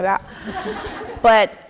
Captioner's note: audience laughing